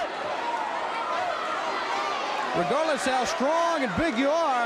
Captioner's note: crowd cheering